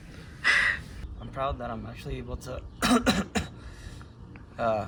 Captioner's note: coughs